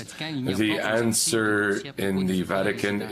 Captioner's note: speaking French